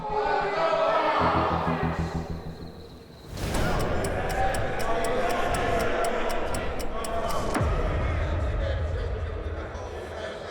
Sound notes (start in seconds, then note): 0.0 inmates chattering; 3.2 clock ticking; 3.5 tense music